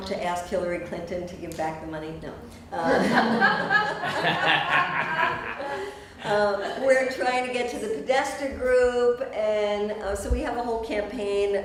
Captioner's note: laughter